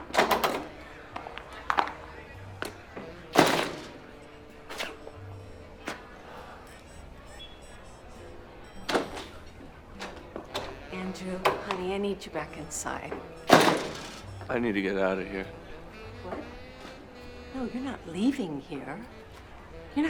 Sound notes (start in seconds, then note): 0.2 door rattling; 3.3 door slams shut; 9.1 door rattling; 13.4 door slams